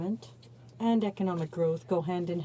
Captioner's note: speaking French